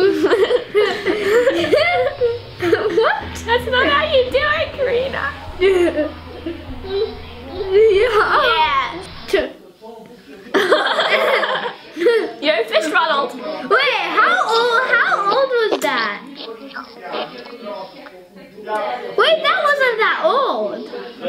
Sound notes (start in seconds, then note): 0.0 laughing; 5.0 laughing; 10.6 laughing